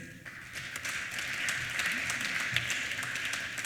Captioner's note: applause